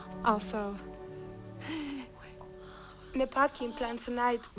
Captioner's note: baby-talking